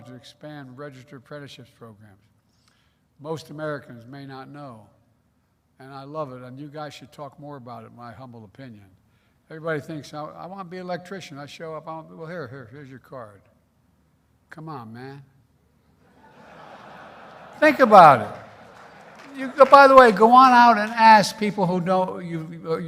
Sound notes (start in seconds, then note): 16.0 laughter; 16.7 applause